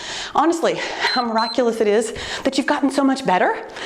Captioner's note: timer beeps